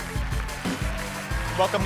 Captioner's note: applause